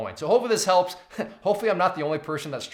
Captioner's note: chuckles